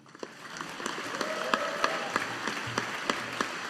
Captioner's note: audience applauding